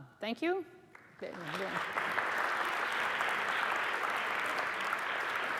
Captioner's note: applause